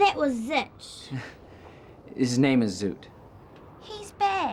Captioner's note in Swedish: skrattar